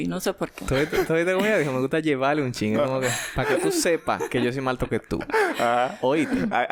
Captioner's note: laughs